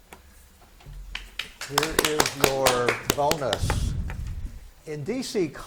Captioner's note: spectators clap